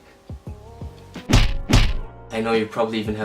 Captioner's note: double clap